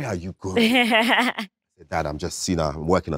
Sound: Letitia laughs

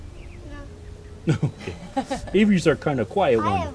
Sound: laughter

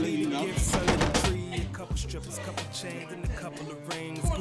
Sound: knock on door

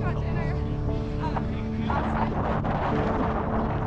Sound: people chatting

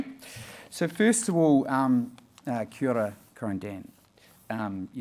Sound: speaking in foreign language

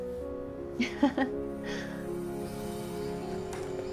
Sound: chuckles

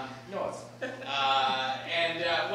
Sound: laughing

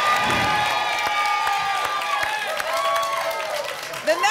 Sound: applause and cheering cont; whoosh

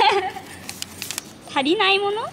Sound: laughs

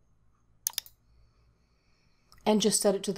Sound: mouse clicks

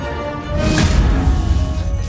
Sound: energy crackling

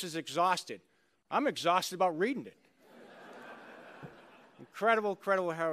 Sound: laughter

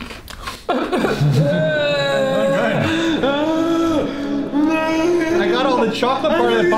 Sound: more sobbing

